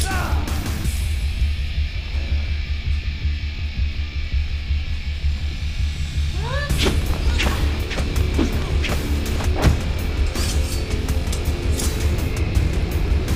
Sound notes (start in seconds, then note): 6.6 air whipping; 10.1 metal clinking